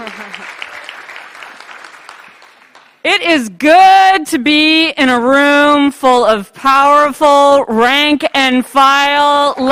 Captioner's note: applause